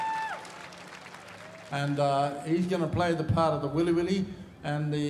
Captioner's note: cheering and applause